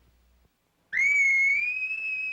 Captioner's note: screams